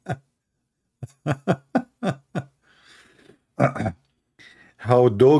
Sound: Ketawa

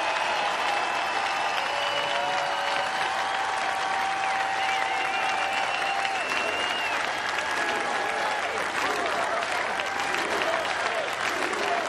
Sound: cheers and applause

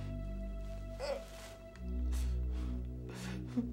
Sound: crying out

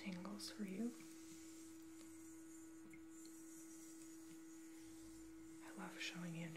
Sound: water Trickling

